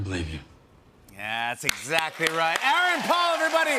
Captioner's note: cheers and applause